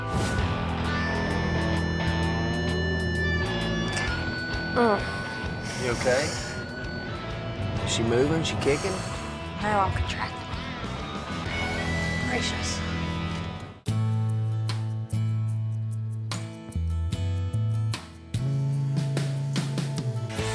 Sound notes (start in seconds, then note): 5.6 grunts; 8.4 exhales